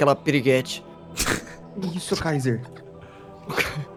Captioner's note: laughing; laughs